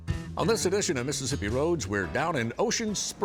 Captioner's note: voiceover